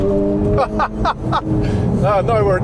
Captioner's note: he laughs